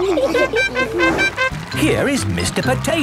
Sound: all laughing; horn tooting

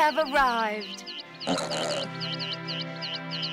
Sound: oink

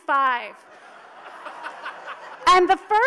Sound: audience laughs

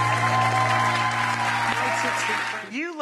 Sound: audience cheers

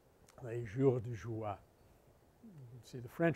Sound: French

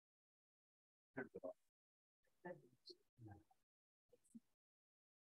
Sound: attendees murmuring

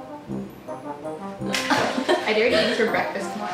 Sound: laughs

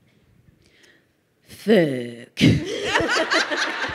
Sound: crowd laughing

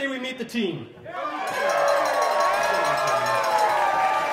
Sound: cheers

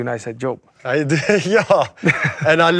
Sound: laughs

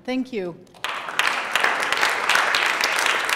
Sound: applause

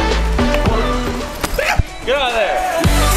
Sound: camera Man yelps

